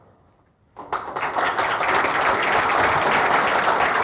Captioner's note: applause